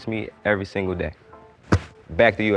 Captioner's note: ball thudding